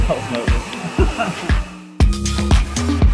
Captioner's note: both laughing